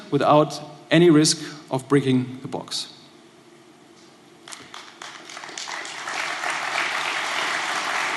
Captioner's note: applause